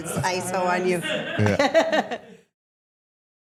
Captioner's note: Stephanie and crew laughing